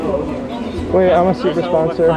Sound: none

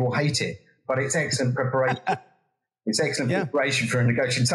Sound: laugh

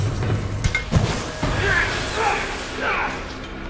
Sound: man grunting

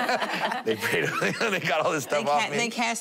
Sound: laughter

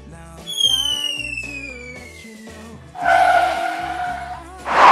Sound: drone whistling and crashing

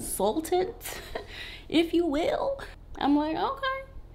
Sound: giggles

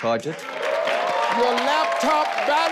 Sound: audience cheering

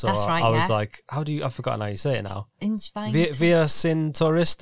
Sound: speaks German

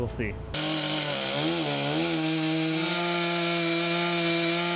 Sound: saw whirring

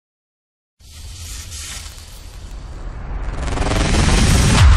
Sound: explosive sounds

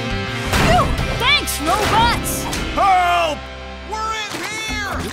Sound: none

